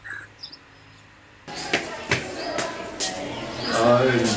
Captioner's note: far kid voices